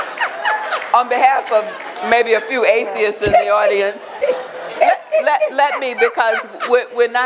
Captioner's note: laughter